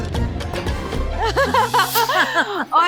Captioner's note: all laugh